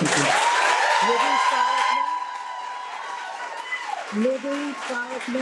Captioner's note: audience applauding cheerfully